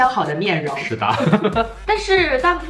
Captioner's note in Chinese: 哈哈哈哈哈哈